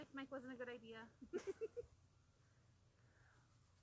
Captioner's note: laughing